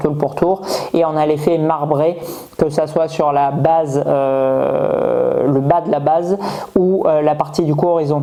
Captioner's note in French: grognement